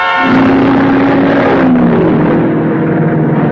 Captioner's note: cars revving